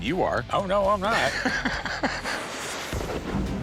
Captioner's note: laughs